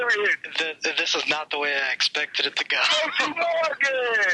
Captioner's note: laughs